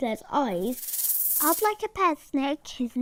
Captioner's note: snake hissing